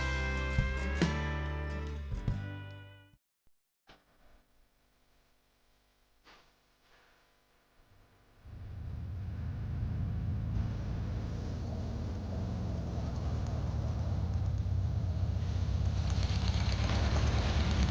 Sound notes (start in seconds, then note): 4.1 light music; 10.8 car engine rumbling